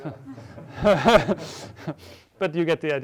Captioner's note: laughs